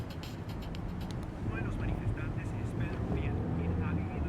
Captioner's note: radio